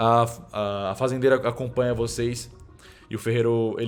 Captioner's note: none